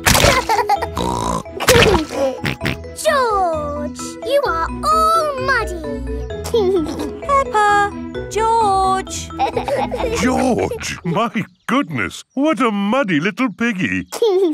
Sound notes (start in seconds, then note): 0.2 laughs and snorts; 6.4 giggling